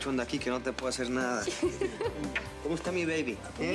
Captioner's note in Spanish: risas